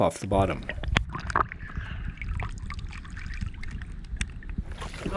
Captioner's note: water burbling